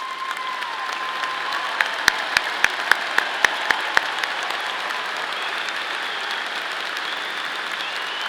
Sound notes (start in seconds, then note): 1.7 audience applauding; 1.7 audience cheering